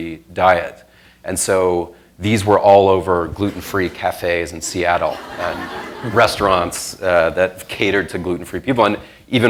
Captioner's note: laughter